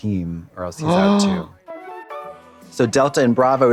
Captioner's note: Trixie gasps